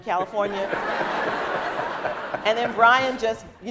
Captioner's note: laughing